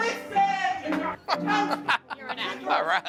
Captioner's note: laughing